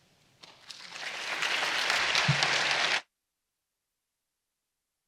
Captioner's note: audience clapping